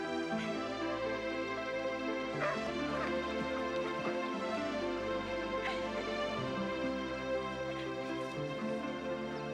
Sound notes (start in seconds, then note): 2.3 Nero barking; 5.7 Caddie laughing